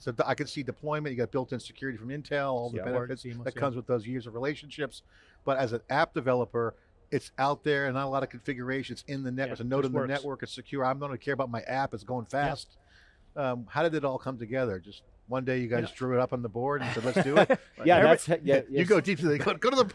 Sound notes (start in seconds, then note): 16.8 laughing